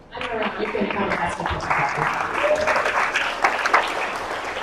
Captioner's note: applause